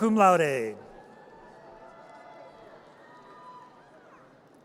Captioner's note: audience cheers